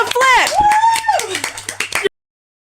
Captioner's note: continued applause from my 3 audience members